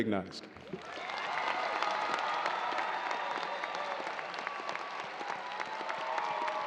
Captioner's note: audience cheering and applauding